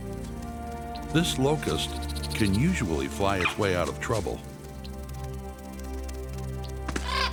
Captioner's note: none